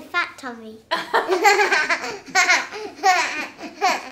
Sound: laughter

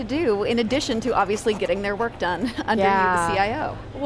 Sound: laughs

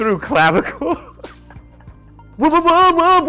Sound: laughs

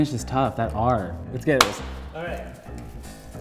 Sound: claps

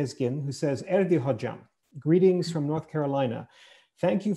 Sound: foreign language

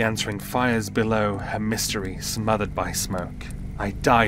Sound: flames flickering wind rushing

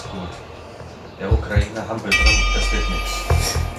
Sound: bell

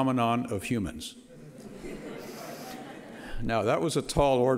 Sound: audience laughter

